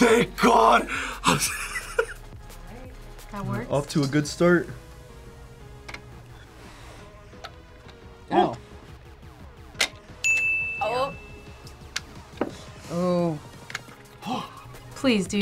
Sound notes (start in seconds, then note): 1.2 laughs; 10.2 bell rings